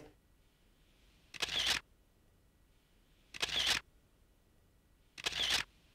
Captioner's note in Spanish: cámara hace sonido Flash